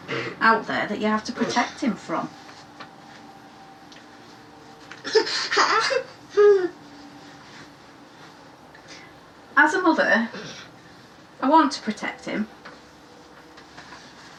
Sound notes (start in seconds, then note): 5.1 giggles